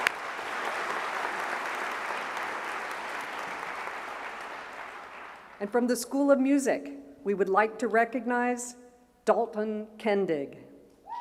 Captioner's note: applause